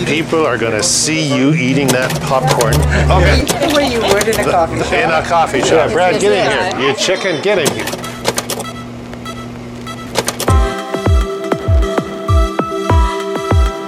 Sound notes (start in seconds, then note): 3.3 lively banter; 10.5 rhythmic music